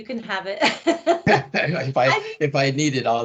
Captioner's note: laughing